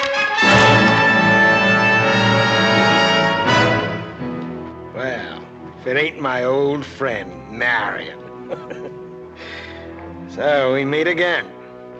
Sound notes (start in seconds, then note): 8.3 chuckles